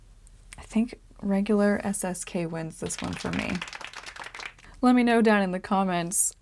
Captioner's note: applause